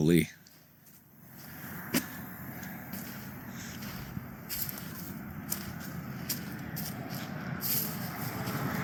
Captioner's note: engine noise